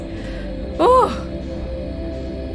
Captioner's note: sigh of relief